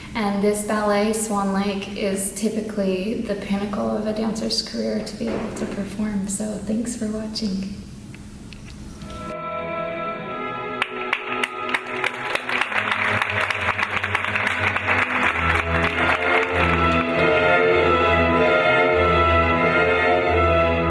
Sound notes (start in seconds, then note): 9.3 soft music begins; 10.7 audience clapping; 17.5 soft music continues